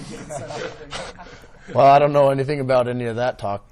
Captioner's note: laughs